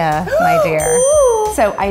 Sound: gasps

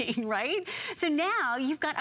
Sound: laughter

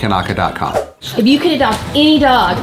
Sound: screen swooshes

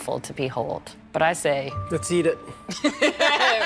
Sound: laughter

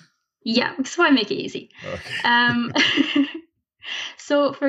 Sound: laughs

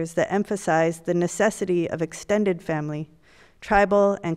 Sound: none

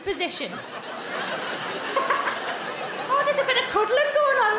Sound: crowd laugh

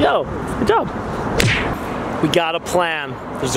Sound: palms smack

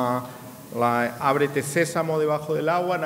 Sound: speaking in a foreign language

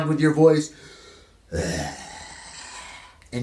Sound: growling softly

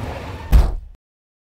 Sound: bang

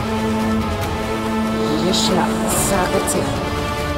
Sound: chanting spell

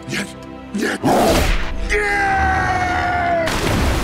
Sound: screaming

